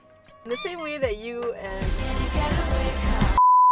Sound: excited noises

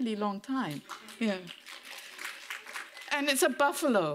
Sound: audience members clapping

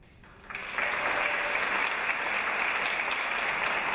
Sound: audience applause

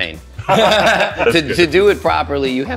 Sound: both men laughing

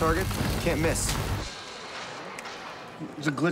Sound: gun firing

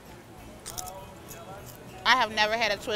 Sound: potato crunching

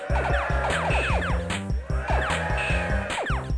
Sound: electronic music; cheering

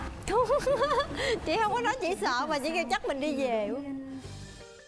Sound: laugh

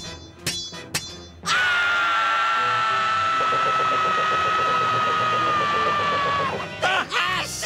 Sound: screaming

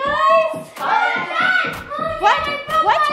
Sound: yelling

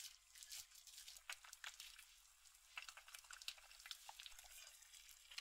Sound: angry boiling

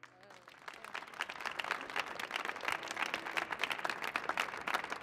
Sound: audience applauding

